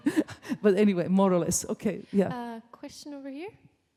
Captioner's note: laughs